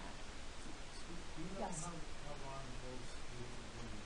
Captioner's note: man speaking